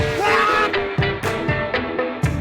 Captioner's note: Buck screams; uptempo rock music continues